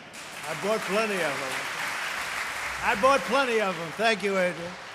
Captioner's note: laughter and applause